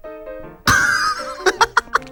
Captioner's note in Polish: śmiech